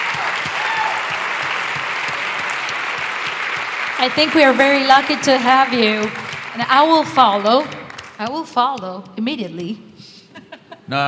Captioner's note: laughter